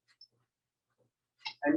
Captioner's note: silence